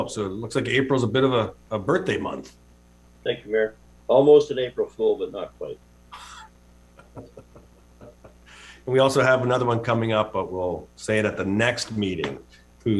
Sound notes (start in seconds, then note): 7.0 people chuckling